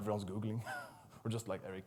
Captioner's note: laughs